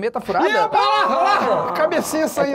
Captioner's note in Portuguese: faz som de surpresa